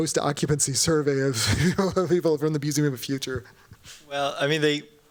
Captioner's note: chuckles